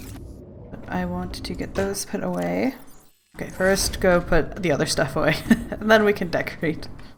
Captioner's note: laughs